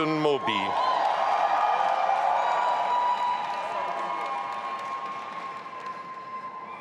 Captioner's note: audience applauding and cheering